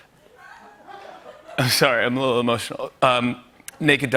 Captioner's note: laughter; voice breaking